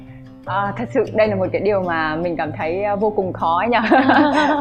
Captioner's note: laughs